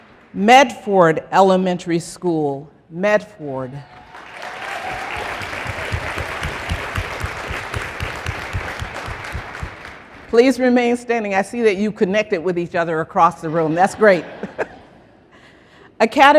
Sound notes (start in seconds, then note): 4.0 applause; 13.4 laughter